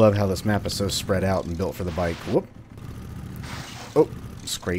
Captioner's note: scrapes wall